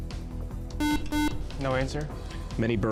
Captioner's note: buzzer